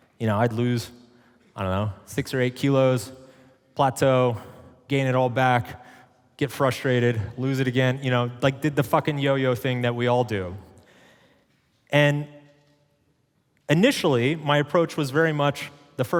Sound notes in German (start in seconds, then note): none